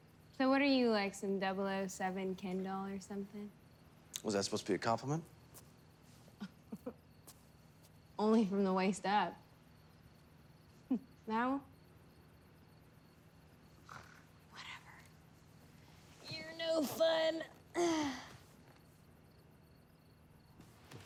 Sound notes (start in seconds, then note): 6.4 laughs; 13.8 scoffs